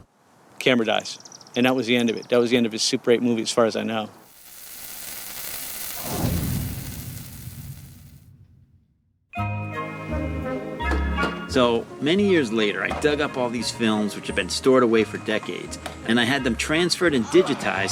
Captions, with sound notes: Camera dies. And that was the end of it, that was the end of his super 8 movies as far as I know. (Sizzling) (Cheerful music) - So, many years later, I dug up all these films which had been stored away for decades, and I had them transferred and digitized